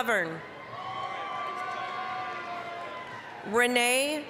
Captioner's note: applause, cheering